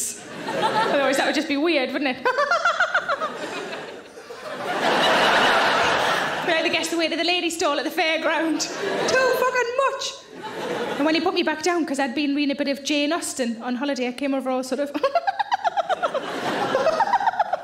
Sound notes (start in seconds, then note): 0.2 audience laughing; 2.3 laughing; 4.4 audience laughing; 15.0 giggling